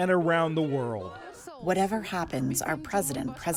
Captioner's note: through translator